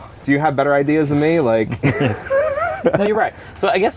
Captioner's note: laughter